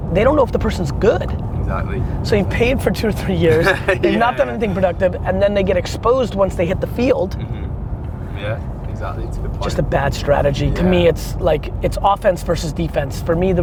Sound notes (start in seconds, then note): 3.3 laughs